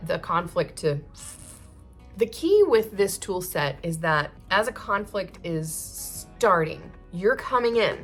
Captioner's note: deflating sound